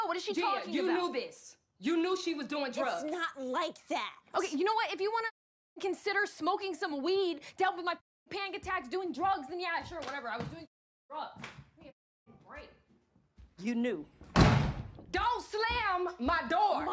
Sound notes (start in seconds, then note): 14.2 door Slams